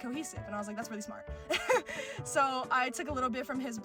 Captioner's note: laughter